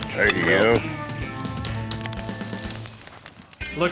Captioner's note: fire crackling